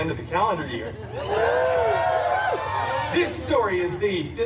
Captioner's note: guests cheering